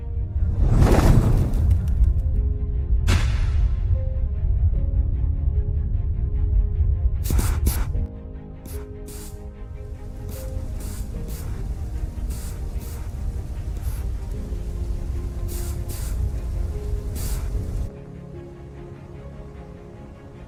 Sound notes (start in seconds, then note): 0.2 whoosh; 3.1 echoey pop; 7.1 soft sounds of attitude adjustment rockets; 10.9 wind noises; 18.4 distant wind noise